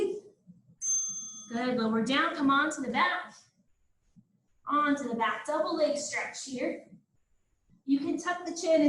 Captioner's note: ding